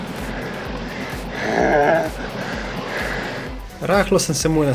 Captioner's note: chuckles